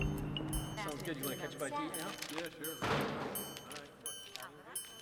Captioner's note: people chattering